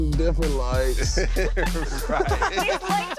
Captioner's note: everyone laughing